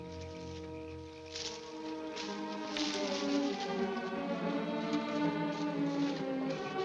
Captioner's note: leaves rustling; dramatic music